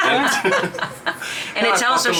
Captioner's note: people laughing